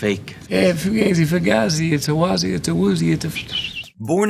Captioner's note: whistles